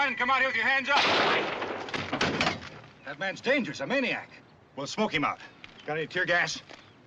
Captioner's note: gunshot